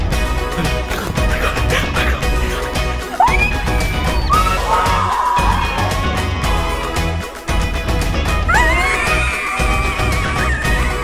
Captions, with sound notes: - Oh my God. My God! - (screams) - (cheers) - (screams)